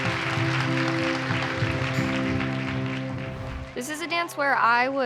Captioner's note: crowd cheering and applauding